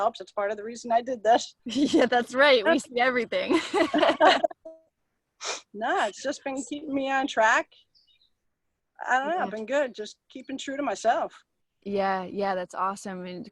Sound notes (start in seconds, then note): 3.4 laughing; 3.5 both laughing